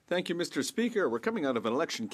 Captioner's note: speaking French